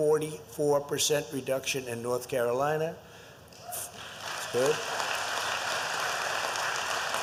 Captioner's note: applause